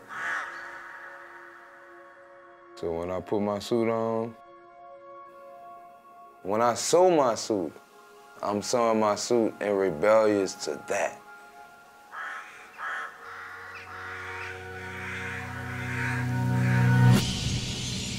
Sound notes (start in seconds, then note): 0.0 bird caws; 12.3 birds chirping; 13.9 birds cawing